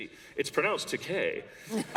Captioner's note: laughter